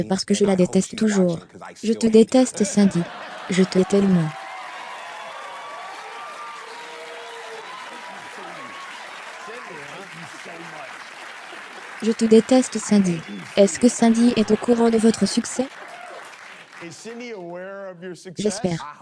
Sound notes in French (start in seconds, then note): 2.6 des rires; 3.6 Le public applaudit; 14.2 des rires